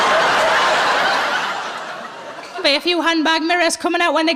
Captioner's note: laughing